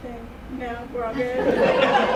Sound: chuckles

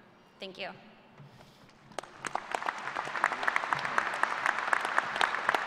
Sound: applause

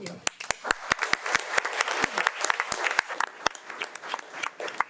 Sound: audience clapping

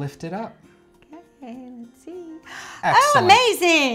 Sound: gasps

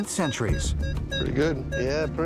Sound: beeping

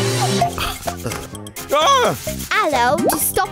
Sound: groaning

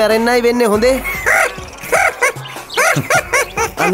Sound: laughs

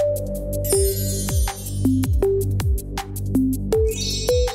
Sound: graphic chiming; graphic chiming

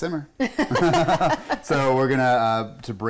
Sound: laughing

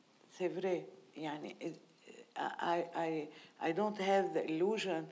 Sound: speaking in foreign language

